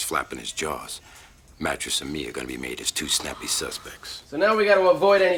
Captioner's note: none